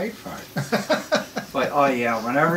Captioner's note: laughs